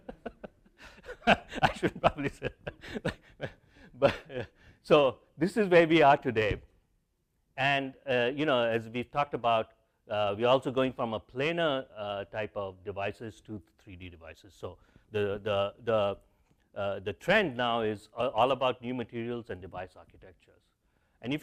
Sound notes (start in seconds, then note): 0.0 laugh